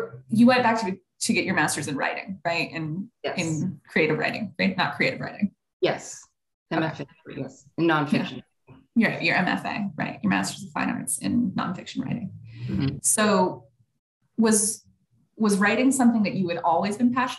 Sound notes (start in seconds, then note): 6.3 microphone cutting out